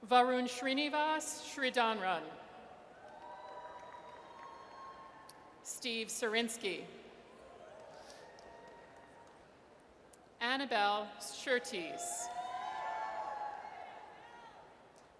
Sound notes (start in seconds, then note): 3.0 audience cheers; 7.8 audience cheers; 12.2 audience cheers